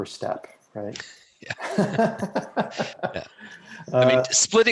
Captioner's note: laughing